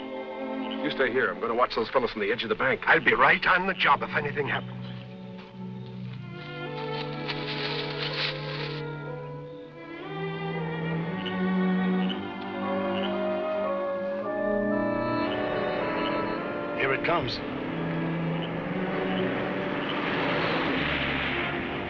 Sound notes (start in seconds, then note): 6.5 grass crunching; 9.5 dramatic, orchestral music; 18.1 dramatic, orchestral music